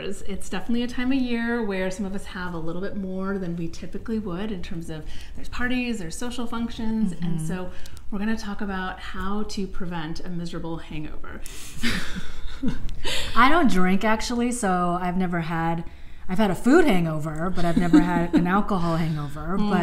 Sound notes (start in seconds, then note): 11.8 giggles